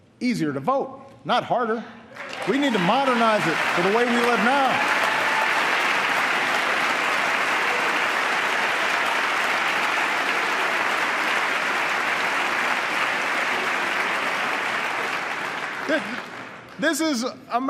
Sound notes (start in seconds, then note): 0.0 applause; 9.9 applause